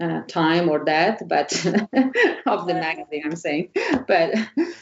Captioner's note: laughs